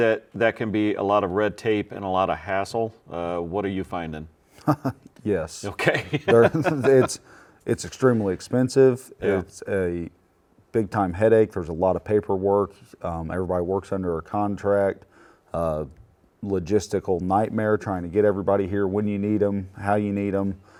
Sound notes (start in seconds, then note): 5.8 laughs